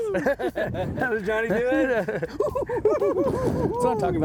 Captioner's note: imitating Johnny's laugh